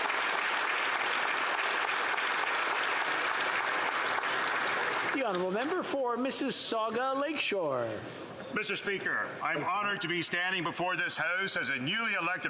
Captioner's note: applause